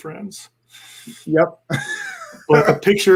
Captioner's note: laughing